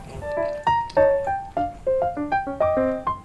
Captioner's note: stuffy nose sound